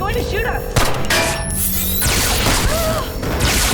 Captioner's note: gunfire; gunfire